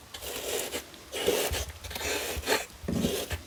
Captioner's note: rustling